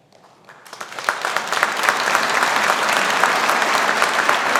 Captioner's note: audience applauding